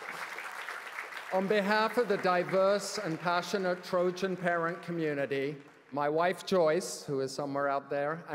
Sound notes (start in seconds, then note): 0.0 cheers & applause; 4.6 applause